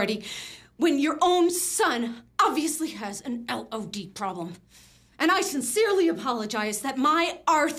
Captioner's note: none